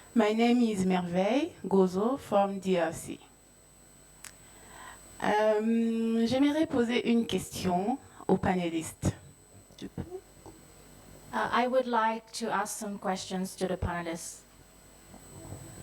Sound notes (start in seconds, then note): 6.9 speaking in French